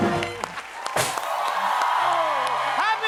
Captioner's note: cheers and applause